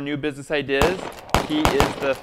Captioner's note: gun blasts